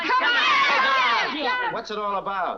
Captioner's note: all shouting Come on